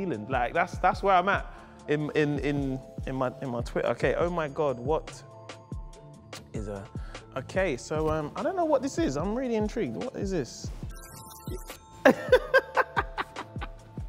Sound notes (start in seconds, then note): 11.0 buzzer; 12.1 laughs